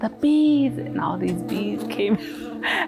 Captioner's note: laughs